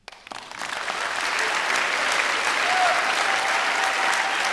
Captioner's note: crowd applauding